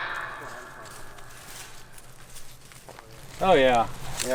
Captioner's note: leaves rustling